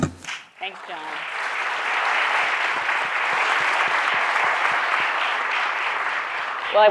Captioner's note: audience applauding